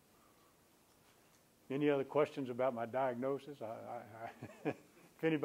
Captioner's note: chuckles